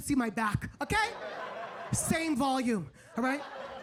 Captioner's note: audience laughing